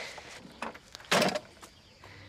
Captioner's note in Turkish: Kapı kapanma sesi